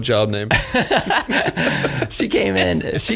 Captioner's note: laughing